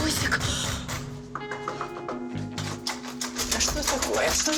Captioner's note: knocks on door